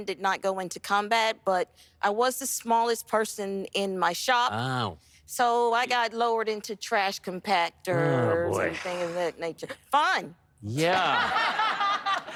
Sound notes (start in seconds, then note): 10.7 sarcastically; 10.9 laughter